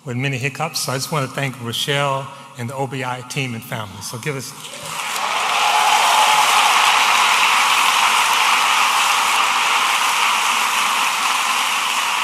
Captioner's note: audience applauding